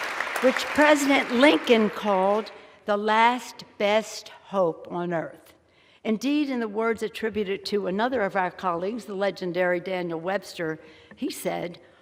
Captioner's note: applause